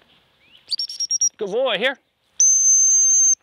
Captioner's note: whistle; whsitle